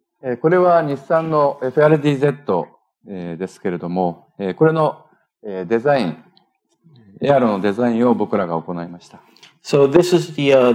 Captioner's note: speaking japanese